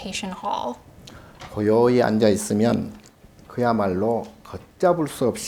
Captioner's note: speaking Korean